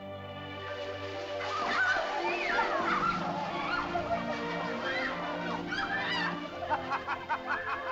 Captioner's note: leaves rustle; excited chatter; euphoric laughter; sentimental music